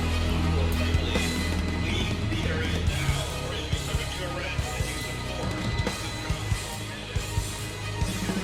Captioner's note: over loud speaker